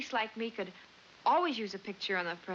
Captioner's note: none